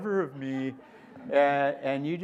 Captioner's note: laughter